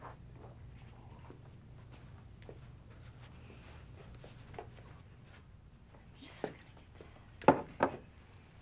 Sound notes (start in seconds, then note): 6.1 speaks softly